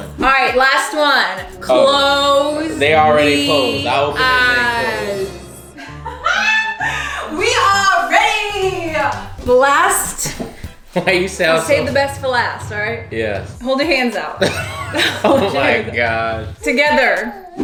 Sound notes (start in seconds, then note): 5.7 laughs; 14.3 laughs